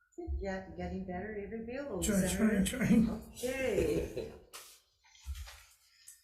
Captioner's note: laughs